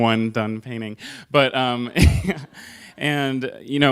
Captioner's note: laughter